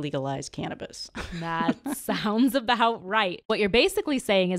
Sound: laughs

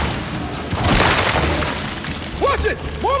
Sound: gun fires

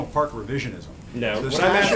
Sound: laughter

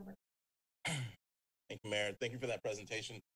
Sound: clears throat

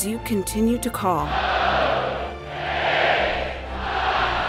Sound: crowd

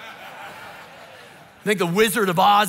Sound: congregation laughing

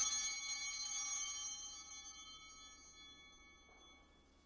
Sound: bell ringing

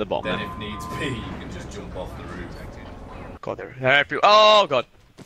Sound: laughs

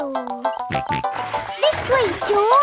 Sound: george snorts

